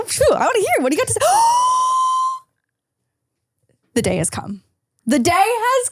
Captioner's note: gasps